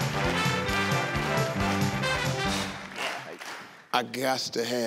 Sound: upbeat jazzy instrumental music; people clapping

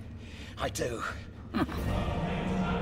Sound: chuckles

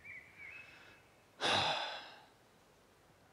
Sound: sigh

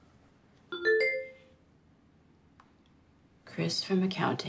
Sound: electronic notification pings

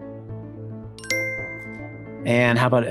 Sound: computer chimes

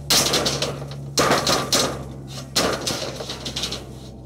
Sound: metal slamming

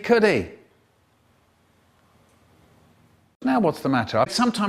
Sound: awkward silence

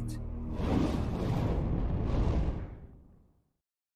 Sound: flames Bursts

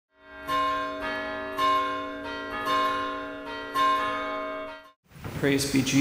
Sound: ringing Bells

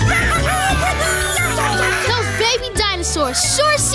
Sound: squeaking

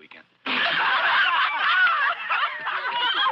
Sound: laughing

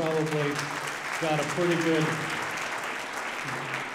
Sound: audience applauding

